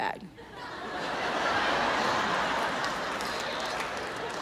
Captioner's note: audience laughs